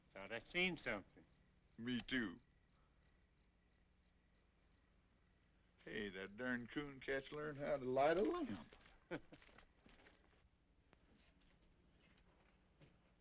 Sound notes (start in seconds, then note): 3.0 insects chirping; 9.0 both laughing